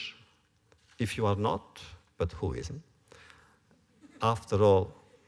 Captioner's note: laughter